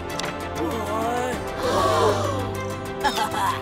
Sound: gasping; chuckles

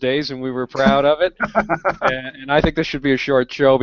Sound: laughs

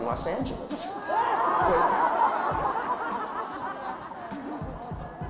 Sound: audience laughing

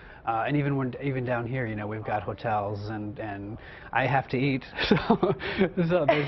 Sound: chuckles

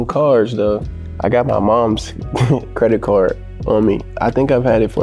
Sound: laughing

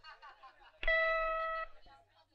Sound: bell Sound

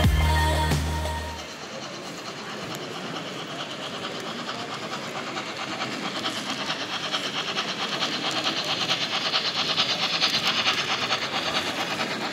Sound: locomotive sound

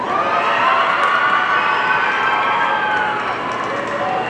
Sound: audience cheering

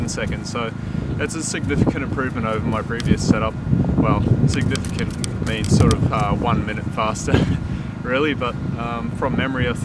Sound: haha

